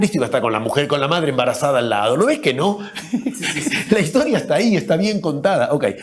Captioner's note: se ríe!